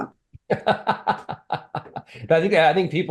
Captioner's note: laughs